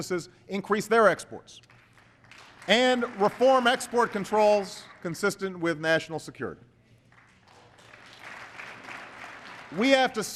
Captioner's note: applause